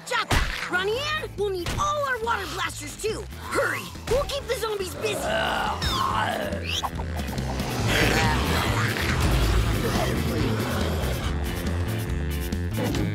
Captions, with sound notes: Ronnie Anne, we'll need all our water blasters, too. Hurry, we'll keep the zombies busy. [moaning]